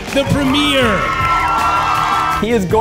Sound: crowd cheers

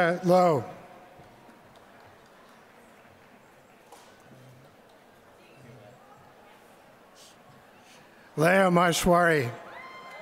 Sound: applause

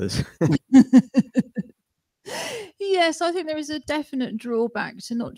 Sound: laughter

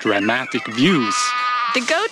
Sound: goat bleats

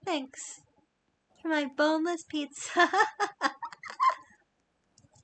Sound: laughs

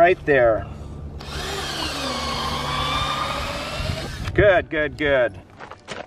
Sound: drill grinding

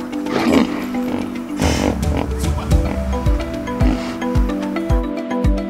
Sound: upbeat music; hippos snorting

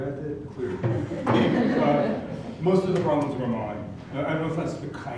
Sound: laugh

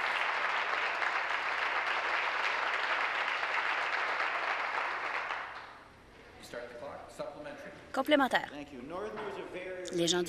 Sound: applause

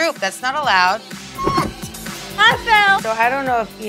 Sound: thumping

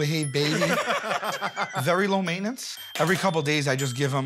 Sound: laughter

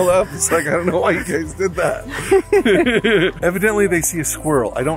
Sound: laughs

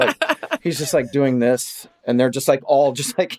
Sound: laughs

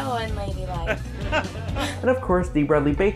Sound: laughing

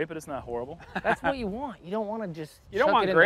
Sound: chuckles

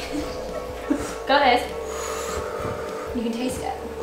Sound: sucking in air

